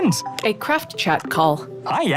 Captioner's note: chat chimes